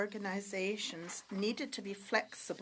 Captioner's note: speaking French